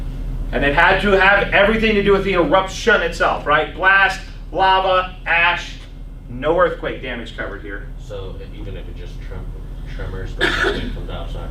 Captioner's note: coughs